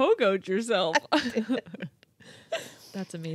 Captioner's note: laughing